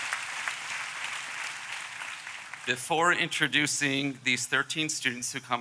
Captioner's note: applause